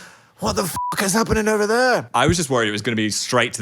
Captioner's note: beep